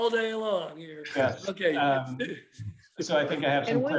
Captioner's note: laughter